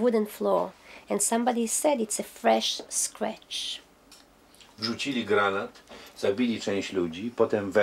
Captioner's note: speaking Polish